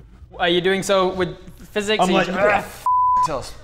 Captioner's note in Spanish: grrrr